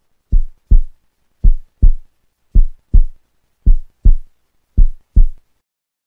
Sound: heart beat

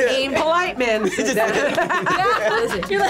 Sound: laughs

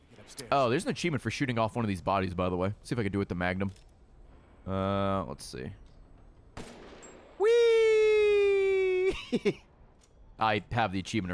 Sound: laughs

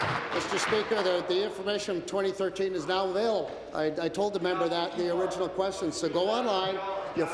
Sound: applause

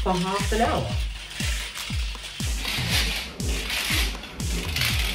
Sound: weight clicking

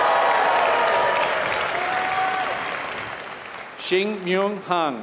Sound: applause

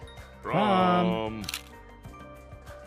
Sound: snap

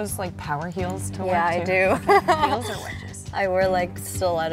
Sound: laughs

